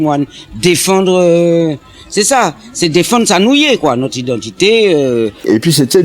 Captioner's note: in creole